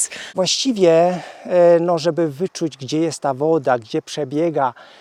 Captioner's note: speaks a foreign language